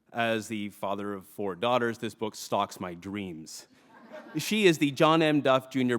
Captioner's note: laughter